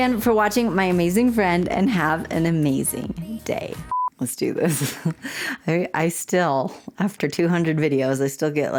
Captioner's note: blooper beep